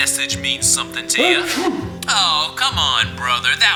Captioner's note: manny sneezes